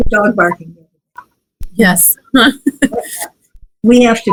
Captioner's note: laughs